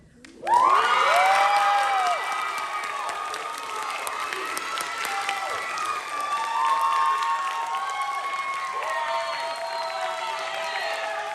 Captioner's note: applause